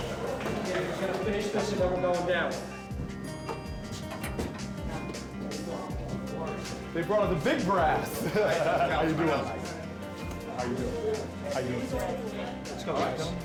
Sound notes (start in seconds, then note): 7.8 laughs